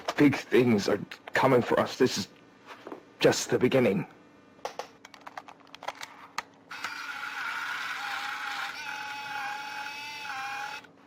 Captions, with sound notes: “Big things are coming for us. This is.. just the beginning.” [ CAMERA SHUTS OFF ]